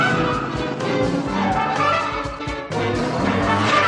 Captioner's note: brakes screeching